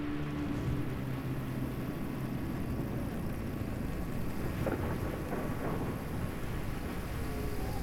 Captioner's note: storm intensifies